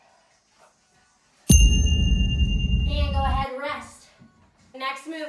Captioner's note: ding